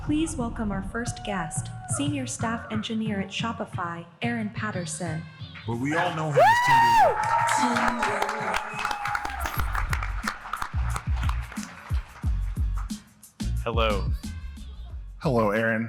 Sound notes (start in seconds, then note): 11.4 applause